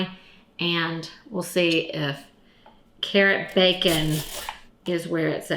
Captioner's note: carrot slicing